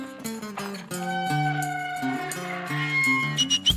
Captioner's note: gate creaks open, whistling